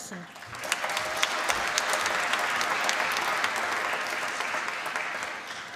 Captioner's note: applause